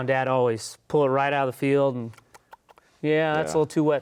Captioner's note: munches